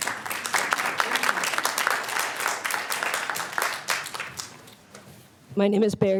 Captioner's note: applause